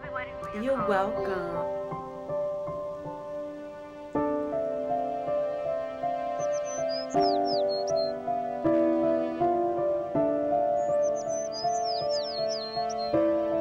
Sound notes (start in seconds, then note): 2.2 dramatic music; 6.6 bird chirping